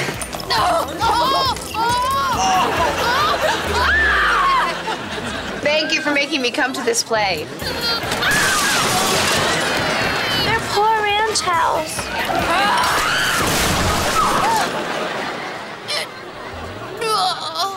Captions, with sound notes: Thank you for making me come to this play. Their poor ranch house. [screaming] [groaning]